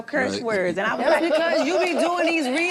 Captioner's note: group laughing